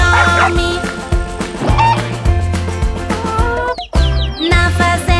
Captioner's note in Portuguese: som de galinhazinha e pintinho